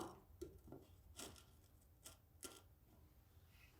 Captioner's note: metal clinks